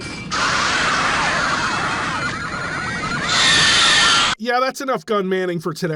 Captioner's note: worst bit-crushed shrieking sounds ever